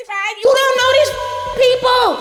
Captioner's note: beep